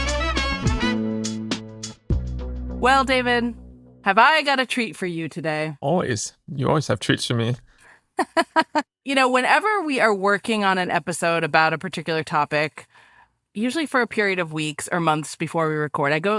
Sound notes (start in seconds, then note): 0.0 upbeat music; 8.2 laughing